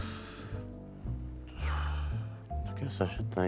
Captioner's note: exhales